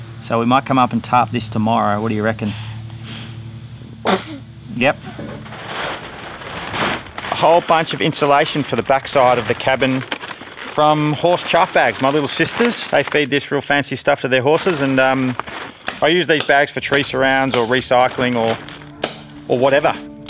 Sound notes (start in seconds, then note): 4.0 sneezes